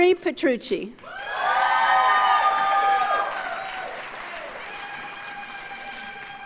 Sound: audience cheers and applauds

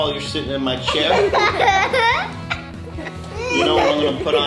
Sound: laughing

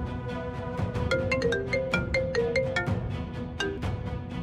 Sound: mobile phone ringing

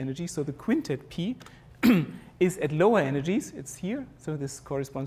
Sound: cough

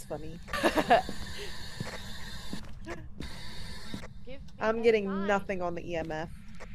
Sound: laugh

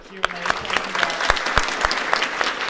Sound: applause

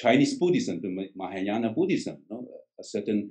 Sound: foreign language

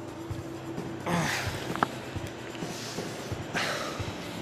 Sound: Rob moaning

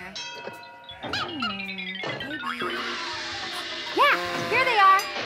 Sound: things clanking; sheep bleat

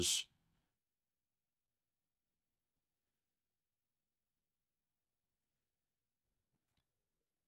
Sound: silence

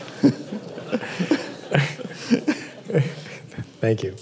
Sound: laughter

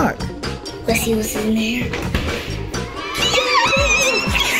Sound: family cheering; goo Goo

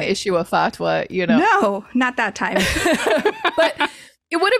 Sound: laughs

